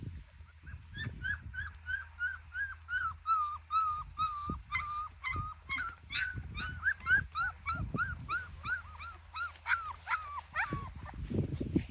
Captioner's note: puppies whimpering